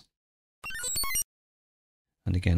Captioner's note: digital chiming tone